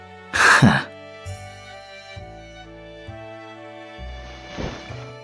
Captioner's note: sigh